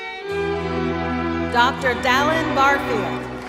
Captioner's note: applause and music